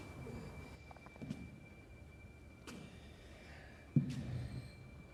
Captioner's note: footsteps and tired breathing